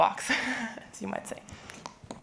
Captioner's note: laughing